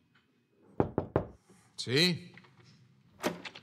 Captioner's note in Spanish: Toques en la puerta